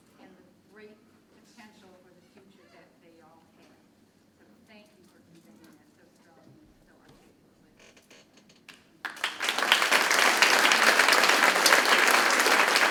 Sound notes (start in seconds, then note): 9.0 crowd claps